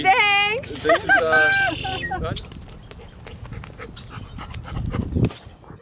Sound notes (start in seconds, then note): 0.6 all laugh; 2.2 dog pants